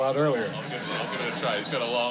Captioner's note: laughter